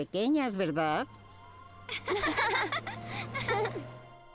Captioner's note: giggling